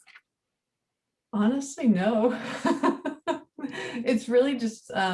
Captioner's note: laughing